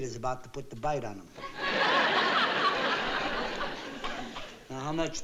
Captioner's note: audience laughing